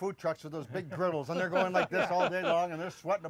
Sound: laughter

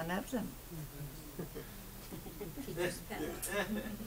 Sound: audience chuckles

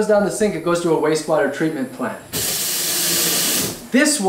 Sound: sound of water running

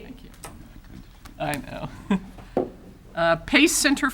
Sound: chuckles

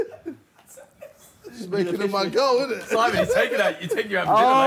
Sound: group chattering

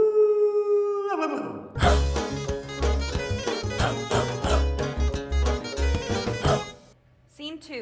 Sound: person softly howls like dog; person barking to beat; whimsical folk music

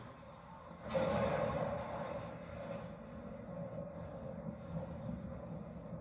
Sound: thunder rumbled

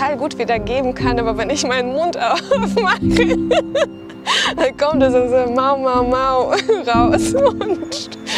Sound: laughs

